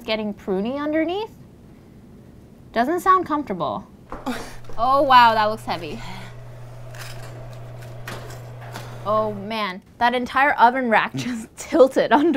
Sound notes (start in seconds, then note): 4.2 Paris moans; 7.1 convection oven fan purrs